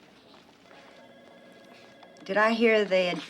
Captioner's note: phone ringing